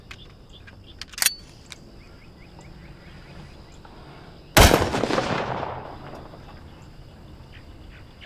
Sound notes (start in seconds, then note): 4.5 gun fires